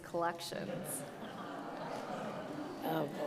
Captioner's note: audience laughs